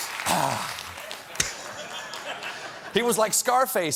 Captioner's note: sniff; laughter